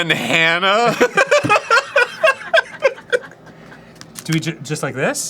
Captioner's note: cracking up at his own comedic genuis